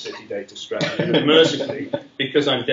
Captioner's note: laughter